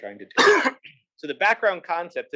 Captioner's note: cough